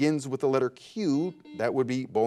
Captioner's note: buzzer buzzes